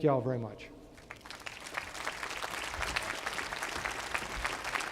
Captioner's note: applause